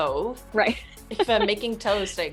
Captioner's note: chuckles